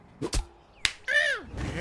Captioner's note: smack